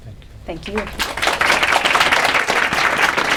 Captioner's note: applause